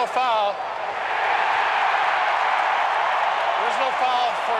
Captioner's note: crowd cheers